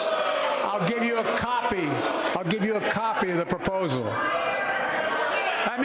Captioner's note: crowd boos